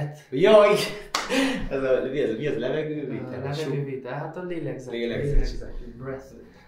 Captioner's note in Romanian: Breath